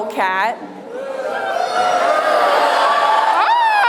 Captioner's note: crowd booing